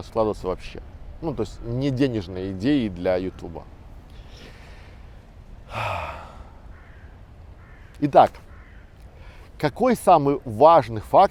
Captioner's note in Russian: вздох